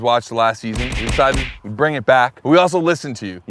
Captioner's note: hits thwacking